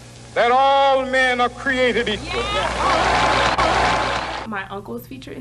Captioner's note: applause